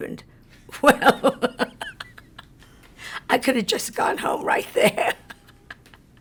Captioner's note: laughs